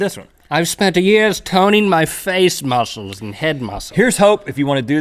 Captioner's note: snobby voice